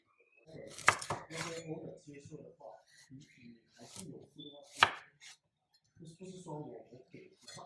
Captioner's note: chop